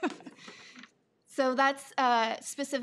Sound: person laughing

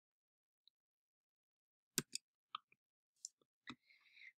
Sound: clicking on the keyboard

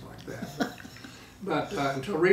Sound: laughing

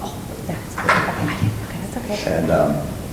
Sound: whispering

